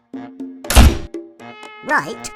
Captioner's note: door